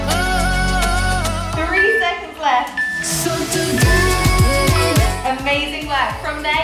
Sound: timer beeping

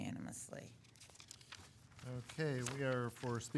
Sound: papers rustling

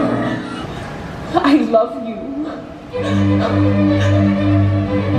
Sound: sobs; soft dramatic music

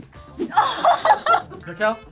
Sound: both laugh

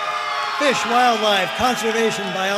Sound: audience cheering and applauding

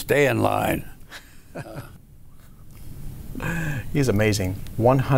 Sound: chuckles

